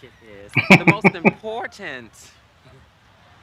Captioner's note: laughing